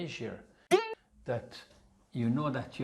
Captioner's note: spring bounces